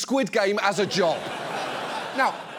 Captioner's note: studio audience laughs